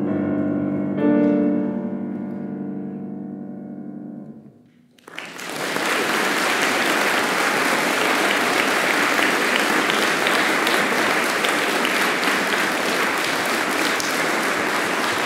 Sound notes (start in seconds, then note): 4.9 applause